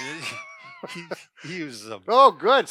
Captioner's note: chuckles